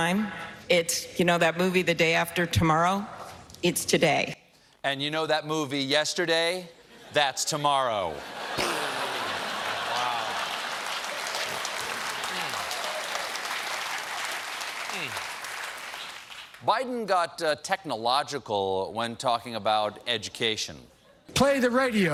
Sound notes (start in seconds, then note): 11.5 applause